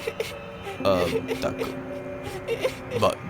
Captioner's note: cries